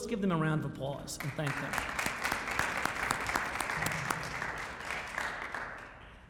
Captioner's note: crowd clapping